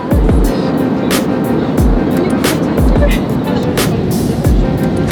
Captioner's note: airplane engines roar